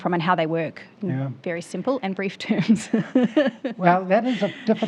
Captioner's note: laughs